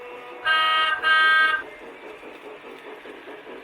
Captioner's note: horn honks